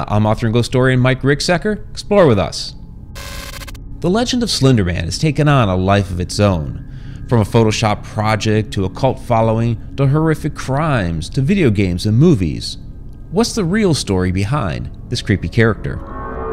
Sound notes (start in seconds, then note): 2.3 static humming; 3.1 low eerie music; 16.2 ominous music